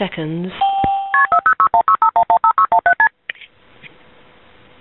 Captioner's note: dial tone ringing